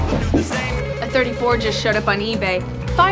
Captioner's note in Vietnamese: điện thoại reo